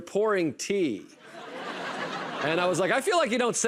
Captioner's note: laughter